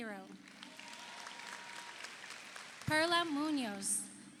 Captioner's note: audience applauds; audience cheers